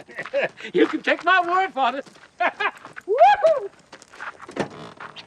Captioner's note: laughing and whooping